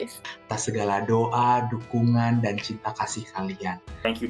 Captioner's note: non-english speech